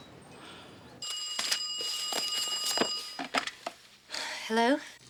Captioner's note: phone rings